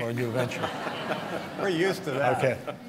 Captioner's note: laughter